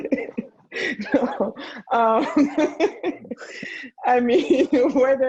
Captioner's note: laughing